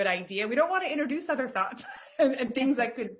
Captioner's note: laughs